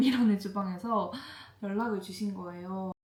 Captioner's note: inhales